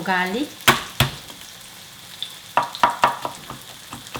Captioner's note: hand slaps; knife tapping; tofu sizzling